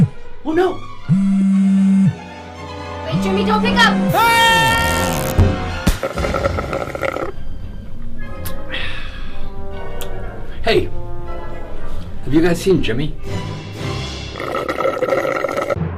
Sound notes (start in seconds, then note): 0.0 cellphone buzzes; 4.1 screaming; 6.0 slurping; 14.3 slurping